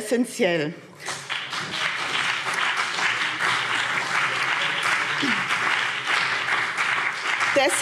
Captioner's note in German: Beifall BÜNDNIS 90/DIE GRÜNEN und vereinzelt CDU